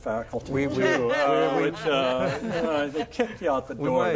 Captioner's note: group laughs